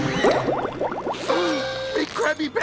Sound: gasps

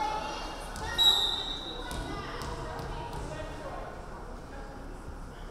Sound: referee whistling

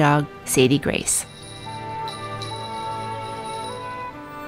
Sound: jingling

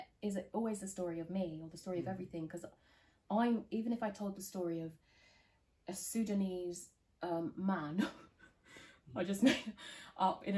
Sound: laughs

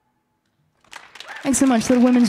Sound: audience applauding

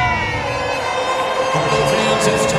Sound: sirens

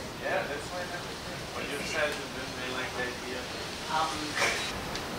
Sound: chattering indistinctly

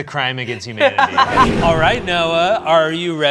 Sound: laughs

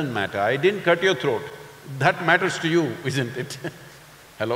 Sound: laughs

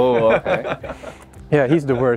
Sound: laughter

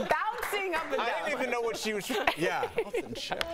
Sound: laughter

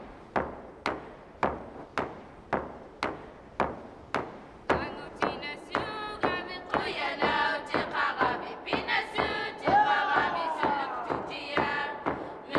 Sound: group Chanting

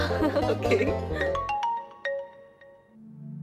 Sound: phone ringing

